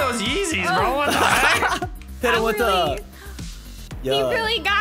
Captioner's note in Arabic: ضحكات درامية